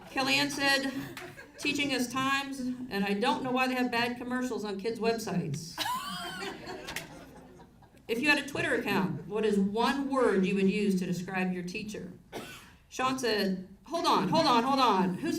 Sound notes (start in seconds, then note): 5.8 audience laughs